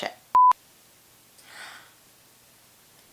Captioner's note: inhale